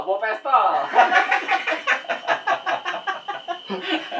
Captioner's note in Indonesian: ketawa Monyet